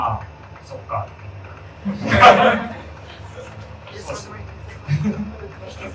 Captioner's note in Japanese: 会場：笑